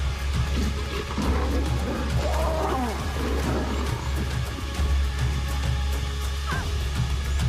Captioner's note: dramatic music; lions snarling; cub chirping